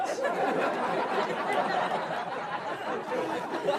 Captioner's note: audience laughs